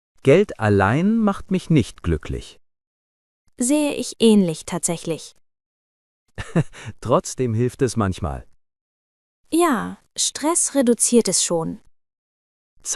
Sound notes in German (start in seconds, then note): 6.4 lacht